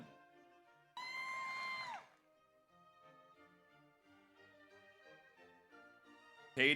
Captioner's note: audience cheers; audience applauds